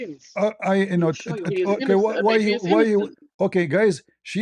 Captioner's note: berdehem